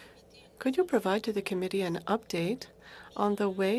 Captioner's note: speaking Alternate Language